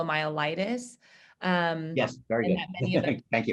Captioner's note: laughter